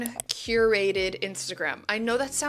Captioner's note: mouse clicks